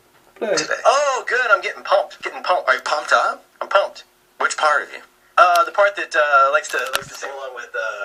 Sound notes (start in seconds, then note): 0.4 podcast plays much louder